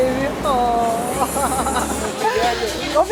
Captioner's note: chuckles